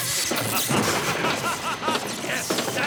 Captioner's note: maniacal laughter